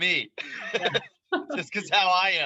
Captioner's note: both laughing